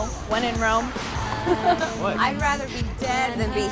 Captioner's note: Eden laughs